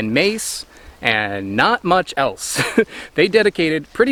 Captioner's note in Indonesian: tertawa